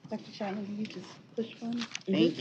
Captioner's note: indistinct chatter